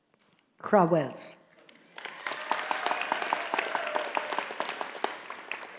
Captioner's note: audience applauding